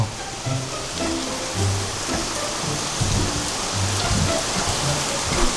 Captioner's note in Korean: 빗소리 asmr